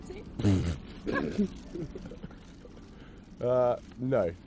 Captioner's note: William snorts